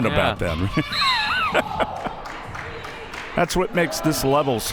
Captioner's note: both laughs